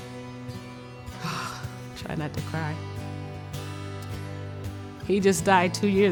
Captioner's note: sighs